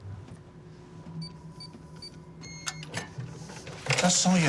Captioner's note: safe beeping